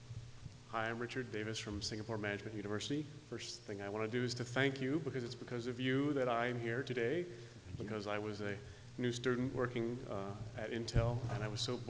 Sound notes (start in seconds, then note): 0.9 voiceover